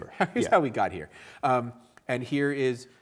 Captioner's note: chuckling